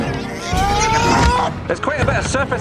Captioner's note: yelling